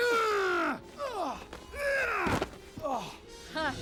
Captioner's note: Eric grunts